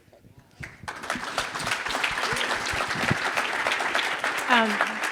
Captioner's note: audience applauding